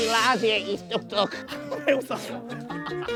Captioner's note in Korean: ㅋㅋㅋㅋㅋㅋㅋㅋㅋㅋㅋㅋㅋㅋㅋㅋㅋㅋ